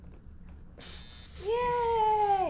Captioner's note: buzzing